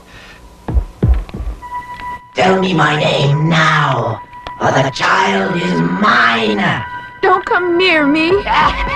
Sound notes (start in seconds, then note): 2.3 echoed